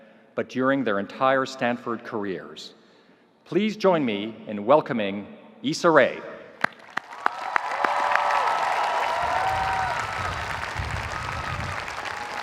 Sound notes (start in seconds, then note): 6.6 audience applauding; 6.9 audience cheering